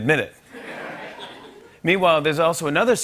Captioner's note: laughter